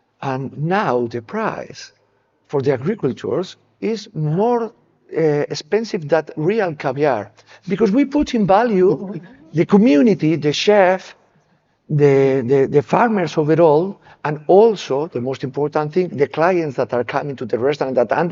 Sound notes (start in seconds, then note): none